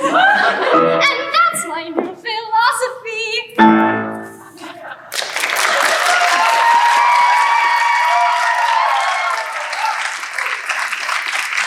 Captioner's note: laughter & Applause